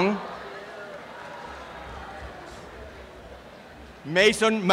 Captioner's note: applause and cheering